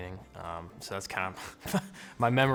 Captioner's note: chuckles